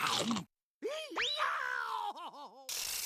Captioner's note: screaming